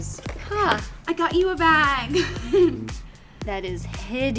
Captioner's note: laughs